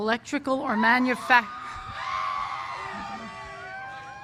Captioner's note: cheers